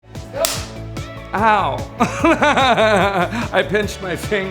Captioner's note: laughs